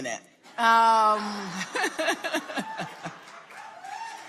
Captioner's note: Laphosa laughs